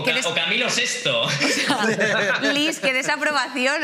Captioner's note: laughs